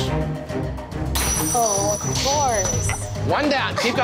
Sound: glass shattering

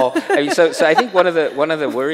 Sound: chuckles

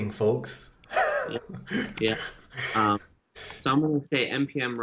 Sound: laughing

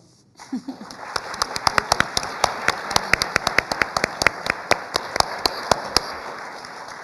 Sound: applause

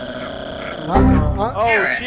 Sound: Windows XP Error Sound

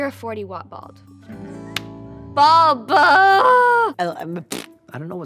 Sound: groans

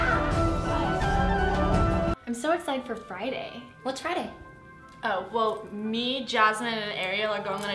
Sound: scream

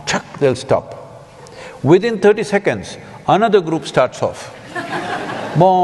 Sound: laughter

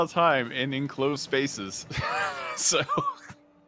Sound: laughs

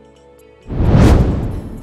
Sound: meteor swishes

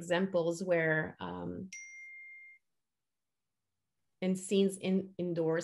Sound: beeping sound

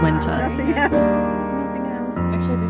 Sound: chatter

